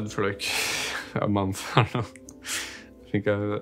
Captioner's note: laughs